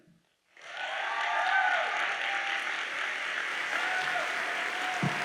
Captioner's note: audience cheers and applauds